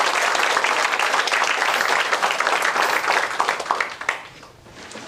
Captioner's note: applause